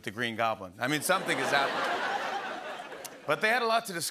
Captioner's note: laughter